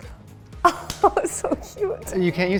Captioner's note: laughs